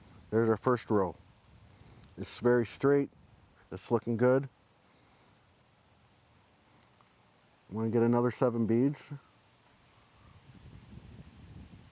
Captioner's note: silence